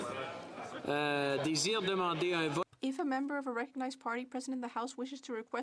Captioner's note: speaking French